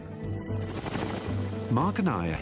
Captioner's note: helicopter spinning